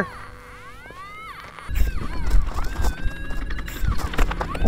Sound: machine beeps

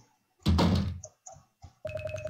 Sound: slam

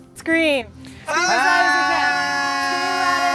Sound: screaming

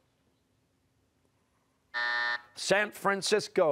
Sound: buzzer

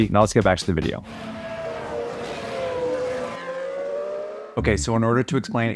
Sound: cars engine roaring

